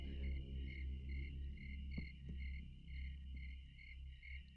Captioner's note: crickets chirping